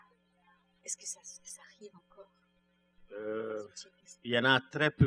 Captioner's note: speaking french